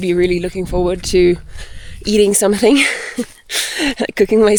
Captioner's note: laughs